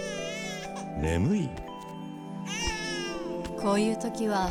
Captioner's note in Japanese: 泣き声